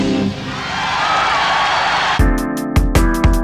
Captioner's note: crowd cheers and applauds